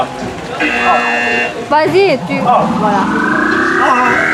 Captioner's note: buzzer